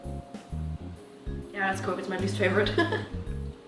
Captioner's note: laughs